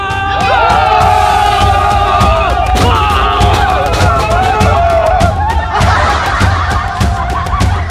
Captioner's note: screaming